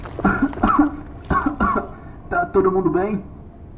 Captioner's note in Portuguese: tossindo